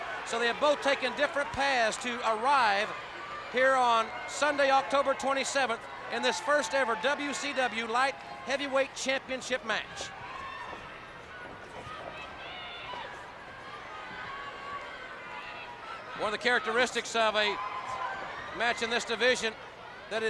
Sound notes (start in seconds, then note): 11.6 crowd murmuring; 11.6 footsteps plodding